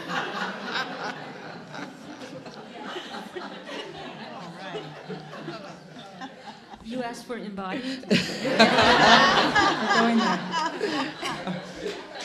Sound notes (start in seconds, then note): 0.0 attendees laughing